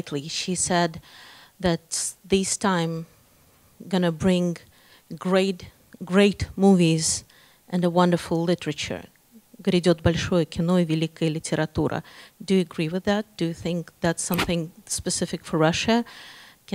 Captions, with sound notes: she said that this time gonna bring great, great movies and a wonderful literature, (speaking in Russian). Do you agree with that? Do you think that's something specific for Russia?